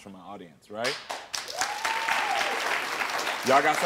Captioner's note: audience cheering